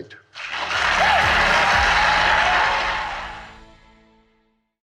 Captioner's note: applause